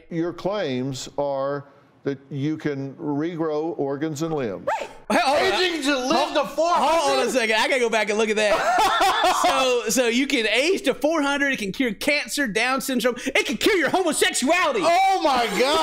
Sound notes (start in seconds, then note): 8.5 laughter